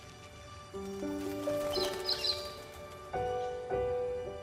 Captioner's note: birdsong